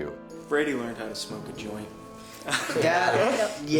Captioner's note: chuckles